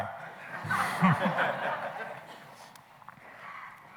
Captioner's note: laughing